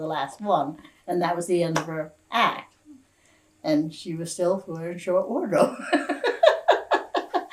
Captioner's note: laughs